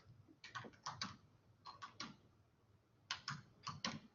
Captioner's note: typing